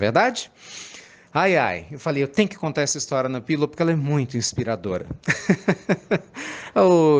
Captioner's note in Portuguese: Risos